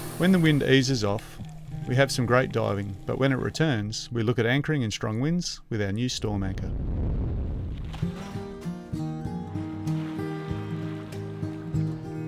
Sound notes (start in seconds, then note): 6.2 wind blowing; 9.3 waves lapping